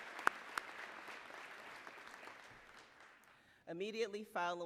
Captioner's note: applause